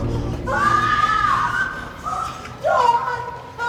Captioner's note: screaming